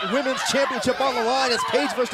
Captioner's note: crowd cheering